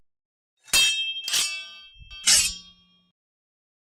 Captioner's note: sword clanging